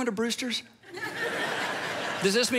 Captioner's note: audience laughs